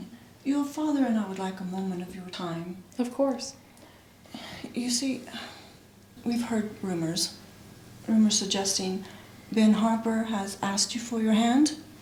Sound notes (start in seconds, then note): 5.5 sighs